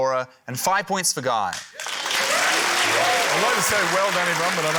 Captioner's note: cheering, applause